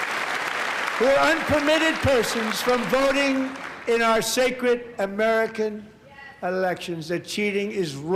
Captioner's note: applause